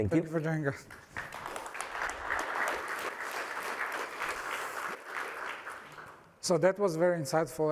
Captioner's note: applause